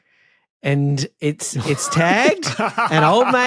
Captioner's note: laugh